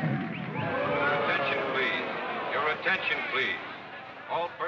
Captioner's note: audience boos; loudspeaker voice